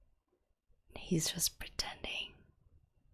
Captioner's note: whispers